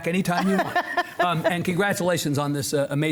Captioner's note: laughing